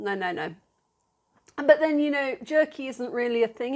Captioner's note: none